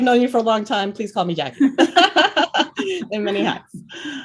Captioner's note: laughs